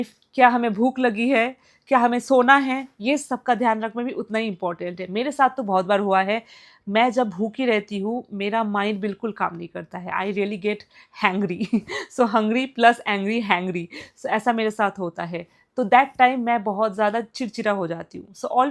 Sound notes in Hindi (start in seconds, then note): 11.5 हंसी